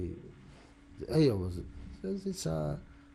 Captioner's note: non-english